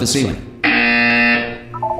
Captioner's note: obnoxious buzzer sound